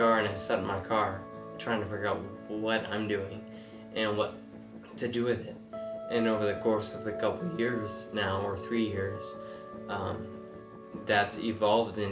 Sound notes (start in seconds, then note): none